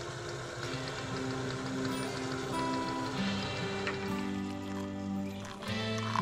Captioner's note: food sizzling